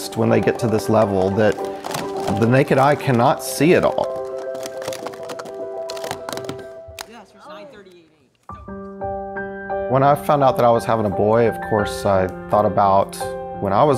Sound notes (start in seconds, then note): 4.9 bright music; 4.9 cups stacking